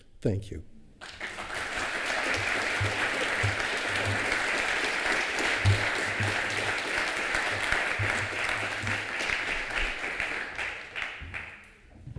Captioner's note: applause